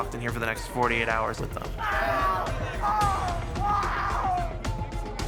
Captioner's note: inmate screaming